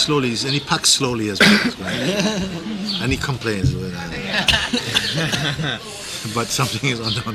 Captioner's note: laughter